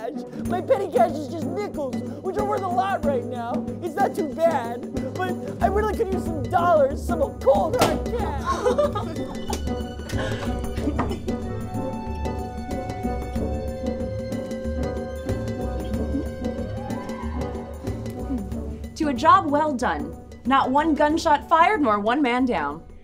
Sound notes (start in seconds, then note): 7.7 champagne pops; 8.1 laughter; 9.9 upbeat music plays